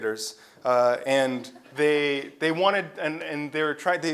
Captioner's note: laugh